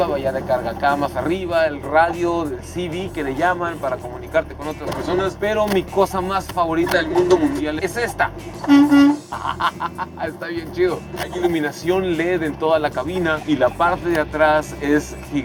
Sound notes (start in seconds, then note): 8.5 horn honking; 9.2 laughter